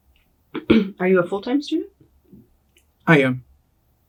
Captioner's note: clears throat